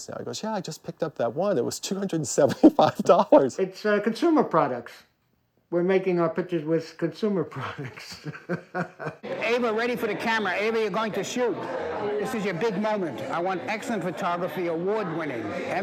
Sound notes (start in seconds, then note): 7.6 laughing